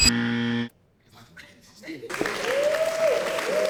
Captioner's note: crowd cheering